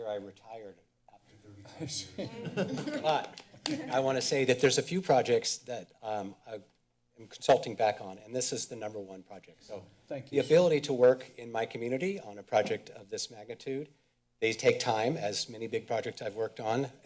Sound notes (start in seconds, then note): 2.1 laughter